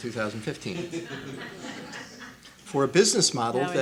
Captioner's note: laughing